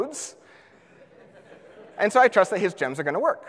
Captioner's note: audience laughs